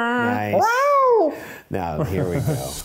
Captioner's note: imitating dog growling; chuckling